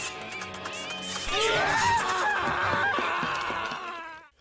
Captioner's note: screaming